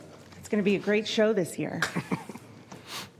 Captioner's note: laughter